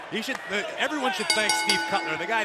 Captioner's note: bell